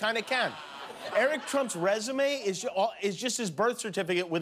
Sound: laughter

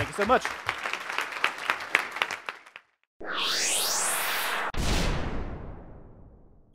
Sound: applause

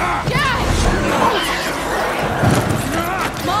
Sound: screeching voices

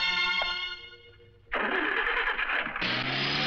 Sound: Jeep engine starts

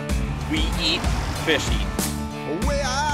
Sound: voiceover

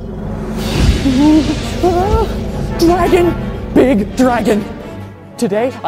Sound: whimpering

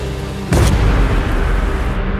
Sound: thunder booms

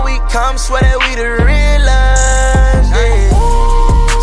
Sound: woo

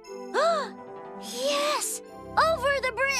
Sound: gasp!

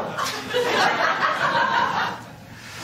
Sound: laughter

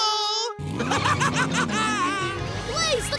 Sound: laughing

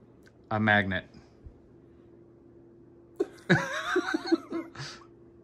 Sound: Tertawa

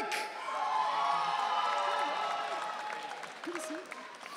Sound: audience cheering

